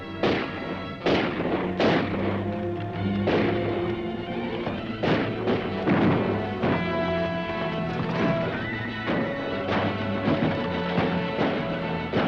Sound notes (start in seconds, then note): 0.0 gun firing; 2.4 dramatic music; 4.7 guns firing; 6.0 dramatic music; 7.7 horse hooves clopping; 8.0 horse neighing; 10.2 guns firing